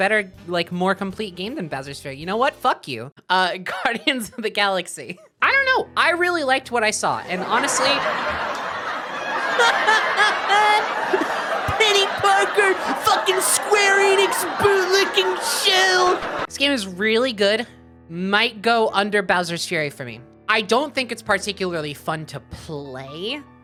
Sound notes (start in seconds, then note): 7.4 laughs, mocking voice; 7.6 sitcom laughter